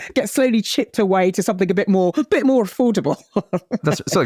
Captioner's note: laughs